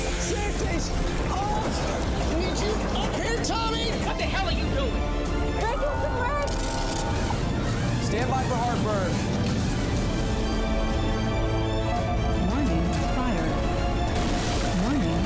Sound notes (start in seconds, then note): 7.0 voice muffling; 9.7 intense music